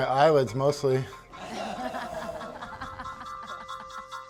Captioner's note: laughter